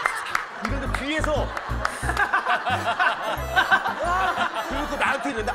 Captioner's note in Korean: 웃음소리